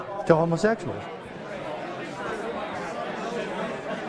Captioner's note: chatter